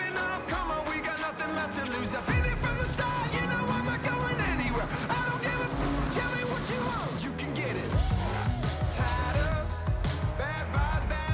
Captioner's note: engin revving